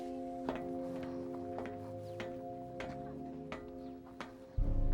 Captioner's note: footsteps on metal steps